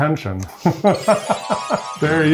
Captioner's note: graphic swoosh; laughing